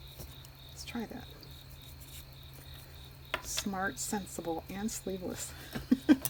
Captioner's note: laughs